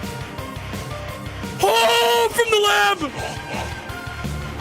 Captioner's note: yells